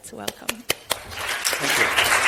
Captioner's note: audience applauds